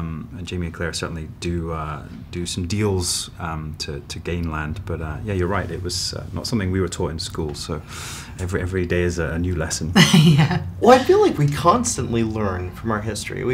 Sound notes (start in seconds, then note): 10.0 chuckles